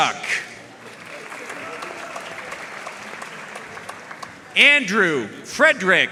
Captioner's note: audience cheering and applauding